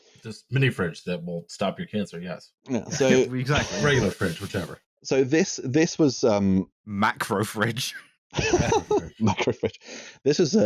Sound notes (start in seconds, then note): 8.3 laughter; 8.4 laughs